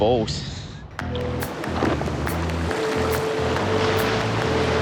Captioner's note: waves crashing